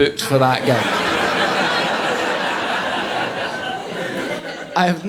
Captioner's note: audience laughing